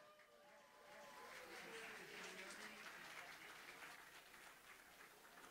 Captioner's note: audience applauding